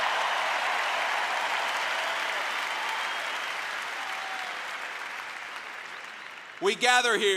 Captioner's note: applause